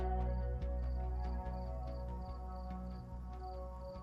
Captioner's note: crickets chirping